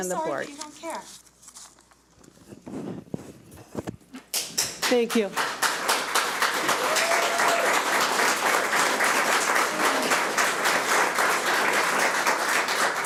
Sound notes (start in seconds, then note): 5.3 audience cheers and applauds